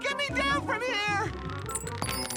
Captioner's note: key jangles